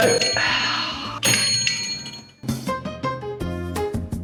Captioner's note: bell rings